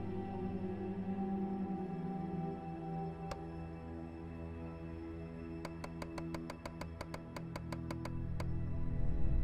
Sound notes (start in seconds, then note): 3.4 switch clicking